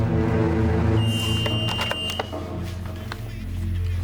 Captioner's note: door buzzer